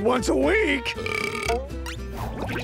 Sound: belching

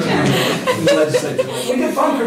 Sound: laughter

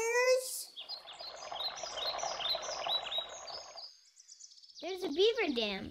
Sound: birds chirping, water rushing

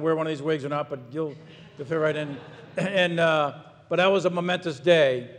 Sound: audience laughs

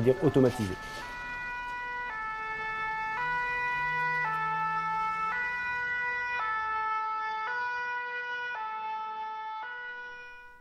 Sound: fire siren

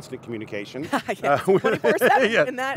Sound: laughing

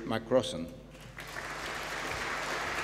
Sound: applause

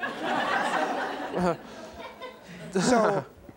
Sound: audience laughing

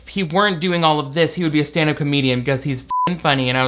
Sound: beep

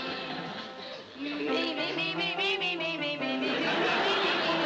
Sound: vocalizing

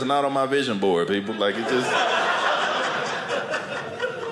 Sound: audience laughing

